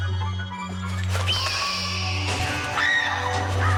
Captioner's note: tense orchestral music; raven screeching; Marlee screams